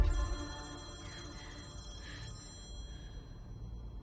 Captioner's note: phone ringing